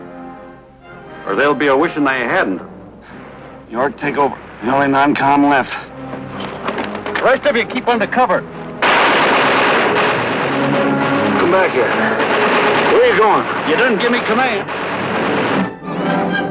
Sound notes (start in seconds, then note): 8.8 gunshots